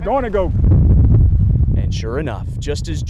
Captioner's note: wind whistling